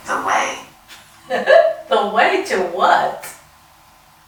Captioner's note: laughing